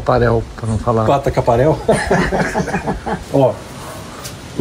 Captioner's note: laughs